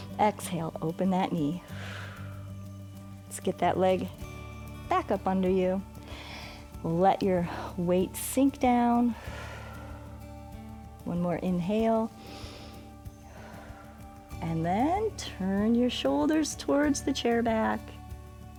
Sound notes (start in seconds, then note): 1.6 exhales; 9.1 exhales; 12.1 inhales and exhales